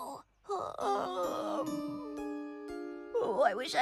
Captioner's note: yawns